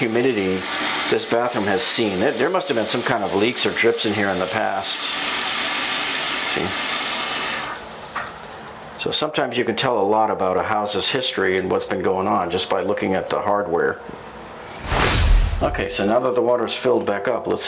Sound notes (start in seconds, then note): 7.6 water shuts off